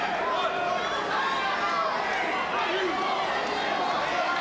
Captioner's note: ambient chatter